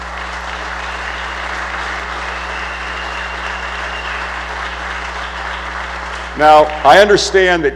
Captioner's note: applause